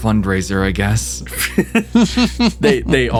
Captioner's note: laughs